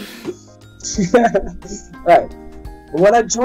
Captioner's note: chuckles